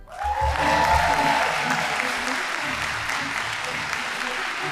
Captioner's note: audience applauding